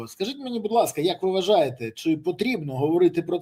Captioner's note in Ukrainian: none